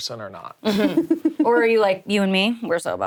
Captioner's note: chuckles